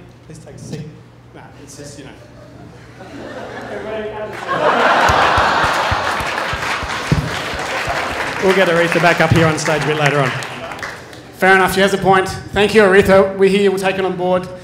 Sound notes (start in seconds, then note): 4.4 applause; 5.7 laughter